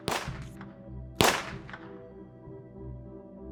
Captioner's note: gunshot